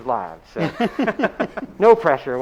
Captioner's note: both laughing